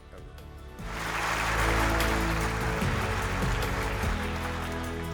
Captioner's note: applause